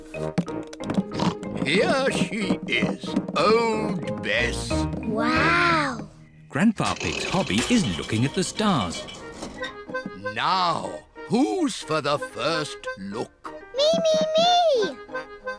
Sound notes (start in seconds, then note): 1.1 oinks